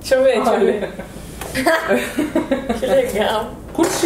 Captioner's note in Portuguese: risos